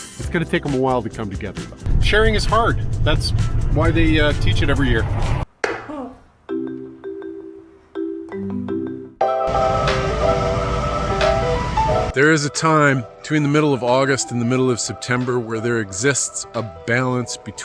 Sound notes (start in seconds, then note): 5.6 lid taps; 5.6 playful music; 9.6 bright music